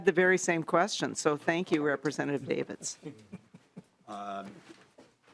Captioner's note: laughing